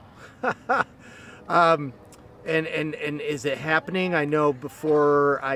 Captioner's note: laughs